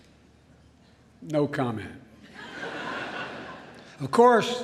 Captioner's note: laughter